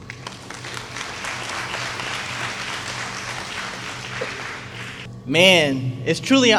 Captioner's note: applause